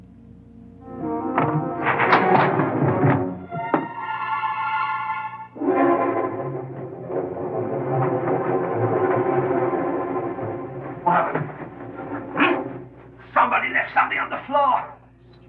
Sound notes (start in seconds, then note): 1.4 crashing noise